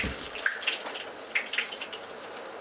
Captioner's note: sizzle